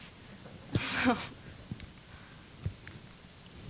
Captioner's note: chuckling